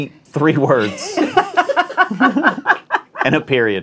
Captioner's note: laughing